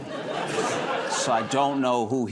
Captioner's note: laughter